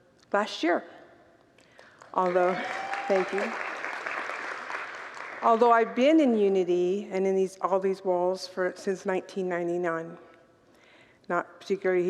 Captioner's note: congregants applaud